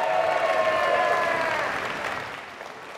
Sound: applause

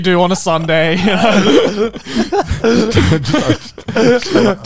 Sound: everyone laughs

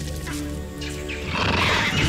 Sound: monkeys yelling; leopard roars

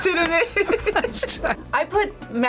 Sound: both laugh

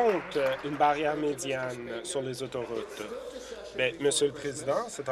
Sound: applause

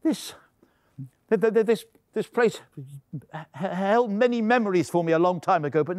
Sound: stammering

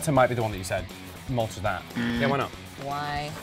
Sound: alarm

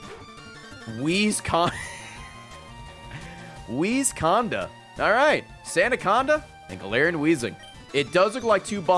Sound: laughs

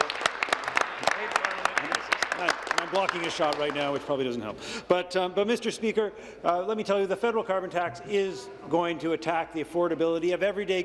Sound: applause

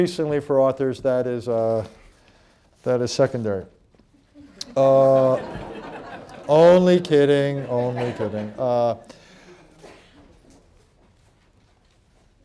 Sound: laughter

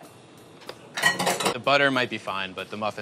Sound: mixer clanging

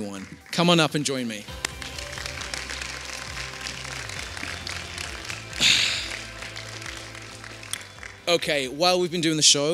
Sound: applause

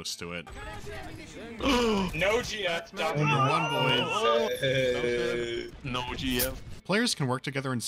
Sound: players cheering for the winning outfit

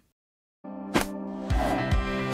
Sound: light music; heart graphic smacks

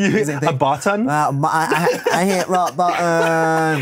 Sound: laughs

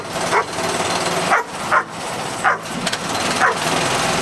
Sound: dog Barking

